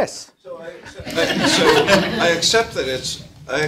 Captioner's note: audience laughter